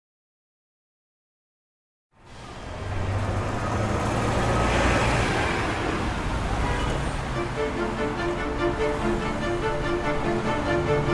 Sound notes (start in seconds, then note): 2.5 traffic rushing; 7.3 orchestral music